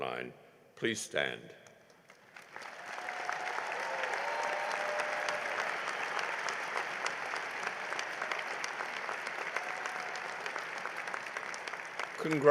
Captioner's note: cheering and applause